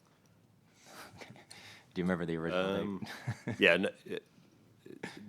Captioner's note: chuckles